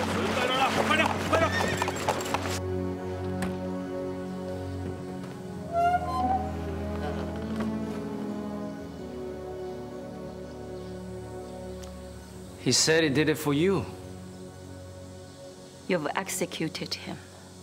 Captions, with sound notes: (man speaking in foreign language) (horse neighing) (somber music) (door creaking) - He said he did it for you. - You've executed him.